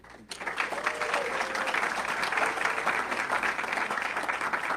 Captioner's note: audience clapping